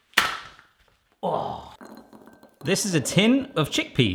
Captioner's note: snap